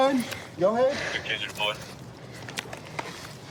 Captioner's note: radio cahtter